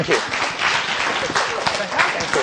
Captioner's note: applause